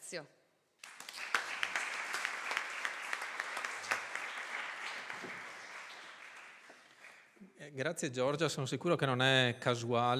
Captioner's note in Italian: Applauso